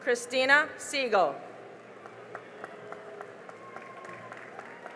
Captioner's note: cheering and applause